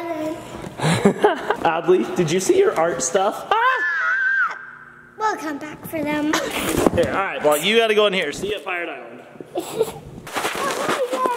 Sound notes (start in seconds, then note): 3.5 shouts